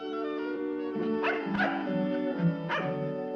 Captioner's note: dog barking